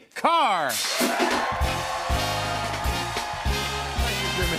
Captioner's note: cheers and applause